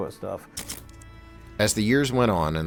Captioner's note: camera snapping